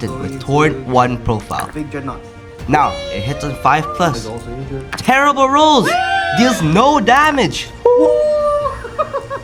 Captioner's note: laughter